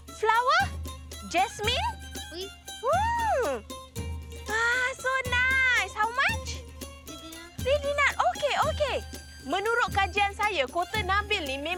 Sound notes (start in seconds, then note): 2.3 foreign language